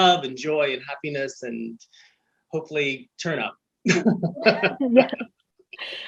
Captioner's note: chuckles softly